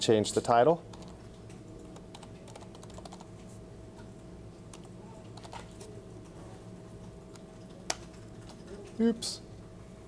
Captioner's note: typing